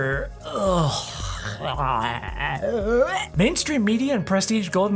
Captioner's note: vomit